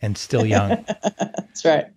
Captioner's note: laughing